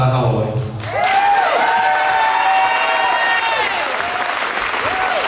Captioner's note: audience cheers and applauds